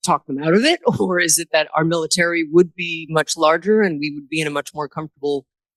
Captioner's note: laughs